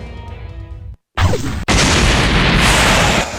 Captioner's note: explosion